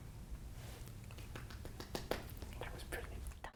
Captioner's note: clapping